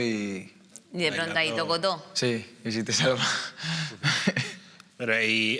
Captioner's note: laughs